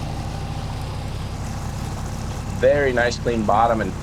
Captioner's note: water sloshing